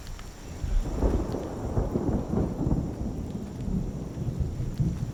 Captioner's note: thunder rumbles